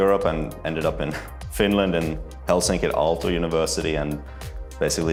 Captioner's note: chuckles